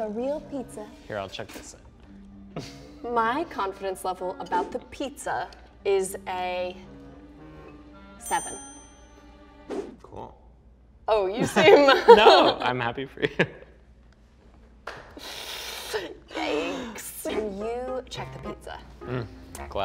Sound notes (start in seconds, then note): 12.5 laughs; 15.9 laughs